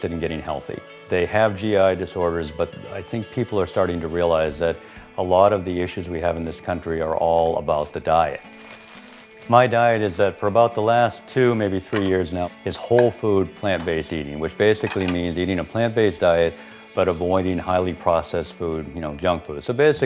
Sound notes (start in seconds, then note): 8.3 plastinc bag rustles, guitar music